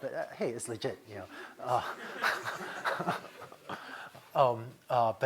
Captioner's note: laughter